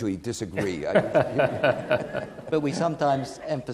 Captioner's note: audience laughing